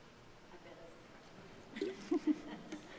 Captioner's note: speaking faintly; chuckling